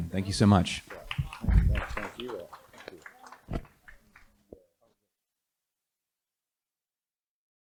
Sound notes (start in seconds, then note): 2.7 applause